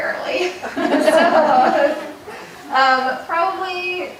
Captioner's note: audience laughing